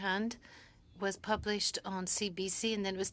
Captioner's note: speaking French